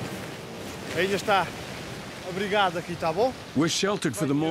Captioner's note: speaking in foreign language